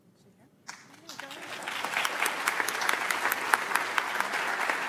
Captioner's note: audience applauds